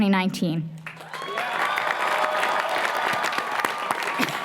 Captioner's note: applause, cheering